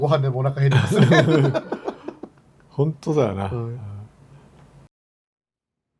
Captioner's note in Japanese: 笑い